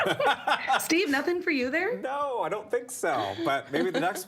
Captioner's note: laughter